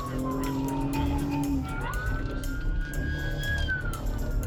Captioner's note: siren wailing